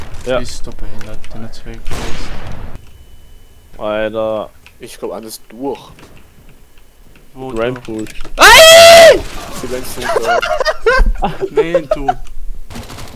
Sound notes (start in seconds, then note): 8.4 screaming for his life; 10.0 laugh